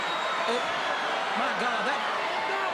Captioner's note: crowd cheering